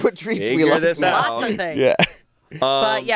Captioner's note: laughs